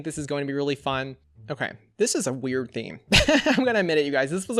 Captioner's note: laughs